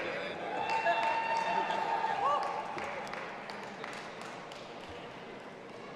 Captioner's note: audience applauding and cheering